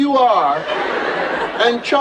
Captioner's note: laughter